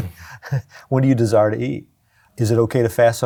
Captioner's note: chuckling